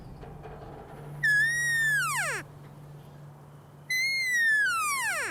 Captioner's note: elk calling